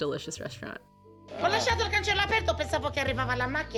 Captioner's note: speaking Italian very fast!